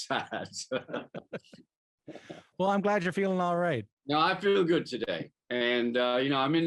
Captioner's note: laughter